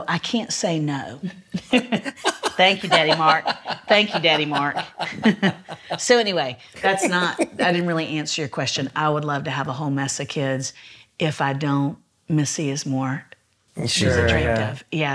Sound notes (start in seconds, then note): 1.4 laughs